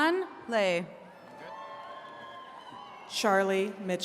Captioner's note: attendees cheering